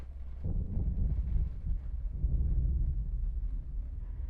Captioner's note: thunder rumbling